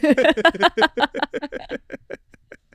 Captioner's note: both laughing